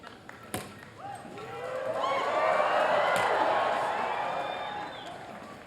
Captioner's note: cheering